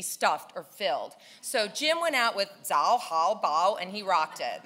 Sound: speaking in foreign language

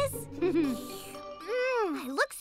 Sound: slurps; chuckles

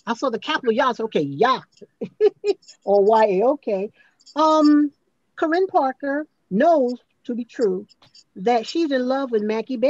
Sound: chuckles

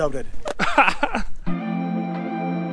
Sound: laughs; heavy music

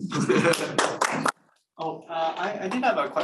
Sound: crowd applauding

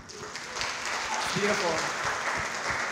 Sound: audience cheering

